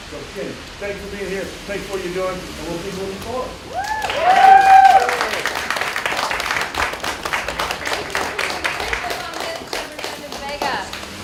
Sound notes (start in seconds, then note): 3.7 cheers, applause